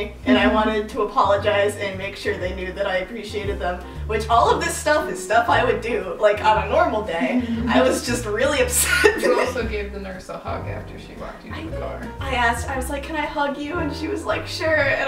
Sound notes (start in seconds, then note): 7.1 laughing